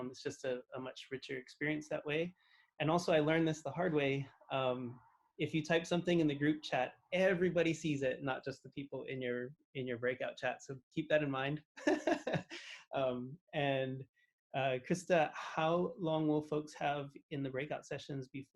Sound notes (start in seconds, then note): 11.8 laughs